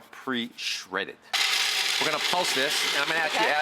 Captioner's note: blender whirring